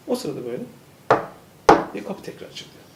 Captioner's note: knock knock